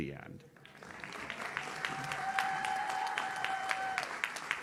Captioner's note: audience claps